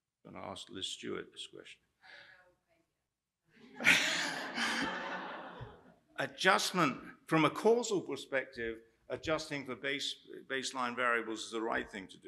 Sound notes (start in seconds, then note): 3.6 laughter